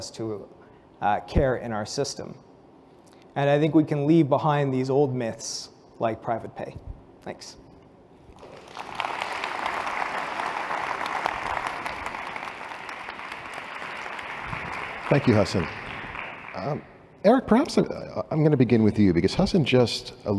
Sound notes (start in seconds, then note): 8.3 applause